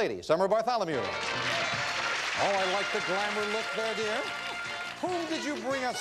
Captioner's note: audience applauding